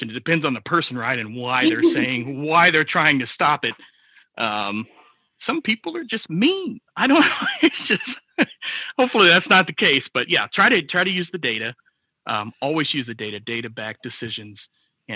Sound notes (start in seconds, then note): 7.1 laughs